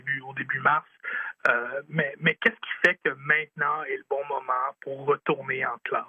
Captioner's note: speaking French